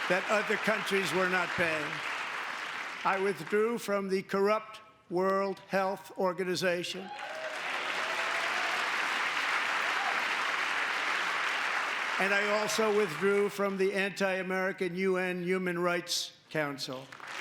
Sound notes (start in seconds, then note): 12.1 applause; 12.1 cheering